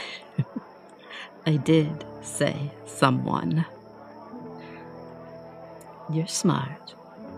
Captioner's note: chuckles